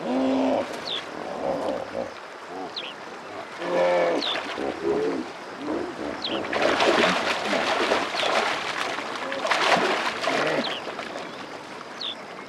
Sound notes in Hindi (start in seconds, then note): 0.0 दरियाई घोड़े गुर्राते हैं; 3.2 दरियाई घोड़े गुर्राते हैं